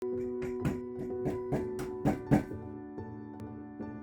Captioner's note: mallet thumping; gentle music